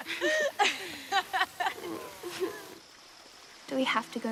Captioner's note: laughs